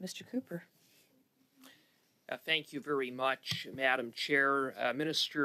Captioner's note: speaking French